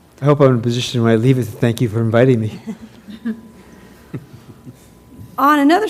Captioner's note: laugh